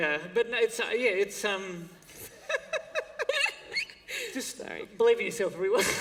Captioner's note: laughter; laughter